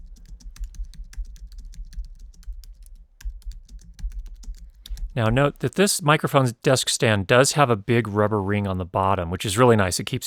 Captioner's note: typing Noises